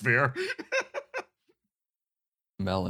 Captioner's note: laugh